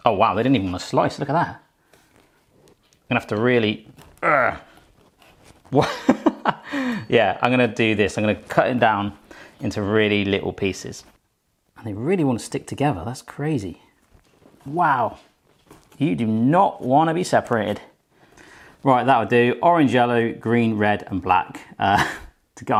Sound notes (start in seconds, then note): 4.2 grunts; 5.7 laughs